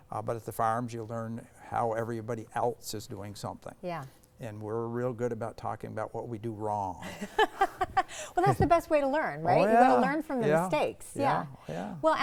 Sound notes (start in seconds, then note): 7.0 both laughing